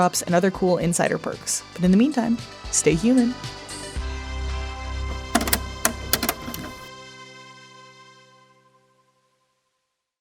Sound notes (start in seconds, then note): 3.9 theme music plays; 5.1 cassette player clicks closed